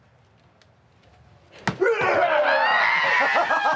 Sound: cops screams; stripper screams; Jimmy laughs maniacally

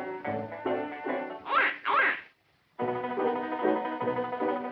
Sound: quacks

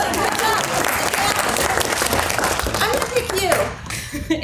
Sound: applause

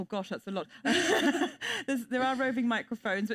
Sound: panelists chuckle

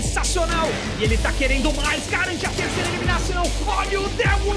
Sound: foreign language

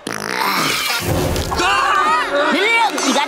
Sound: farting; shrieking

